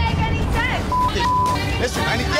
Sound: beep

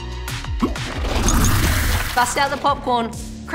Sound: splash

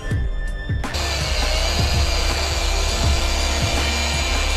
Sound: buffer humming

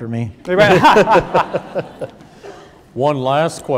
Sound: laughing

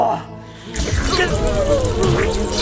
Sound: loud buzzing

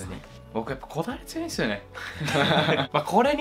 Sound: laughs

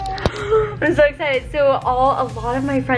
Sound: gasps

